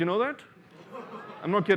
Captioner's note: laughter